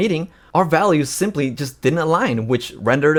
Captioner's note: none